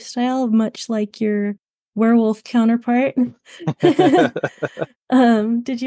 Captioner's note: laugh